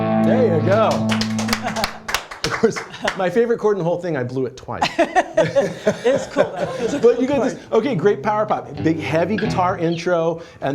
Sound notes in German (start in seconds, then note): 0.7 applaus; 4.8 lachen